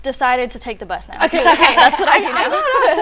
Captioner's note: laughing